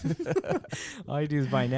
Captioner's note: laughing